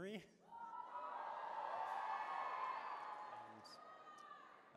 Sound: cheering

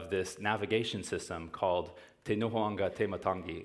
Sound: speaking foreign language

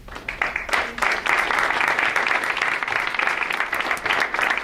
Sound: audience applauds

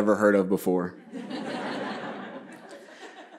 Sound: laughter

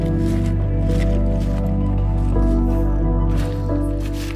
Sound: ice crunching

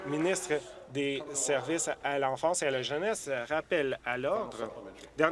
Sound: applause

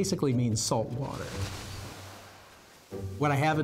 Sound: waves lapping

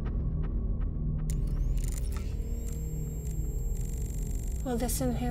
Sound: machine drilling

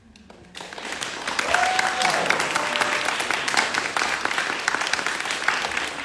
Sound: audience clapping; audience cheering

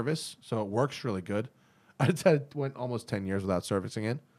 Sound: laughter

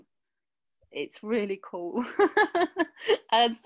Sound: laughs

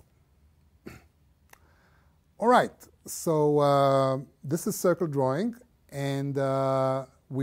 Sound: cough

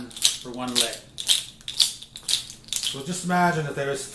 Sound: deer toes clacking

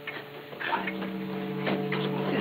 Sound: muttering softly

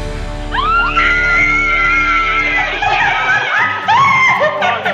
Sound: cheering

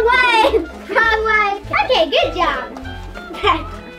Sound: laughs

